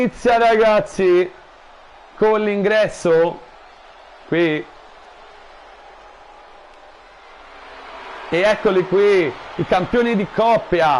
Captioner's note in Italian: Applauso